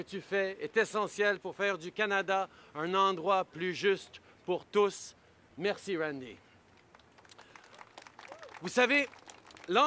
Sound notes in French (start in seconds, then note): 6.8 Applaudissements